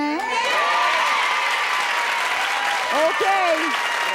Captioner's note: cheering